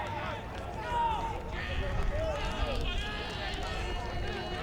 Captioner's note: fans yelling